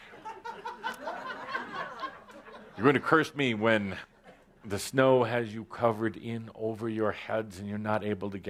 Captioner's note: laughter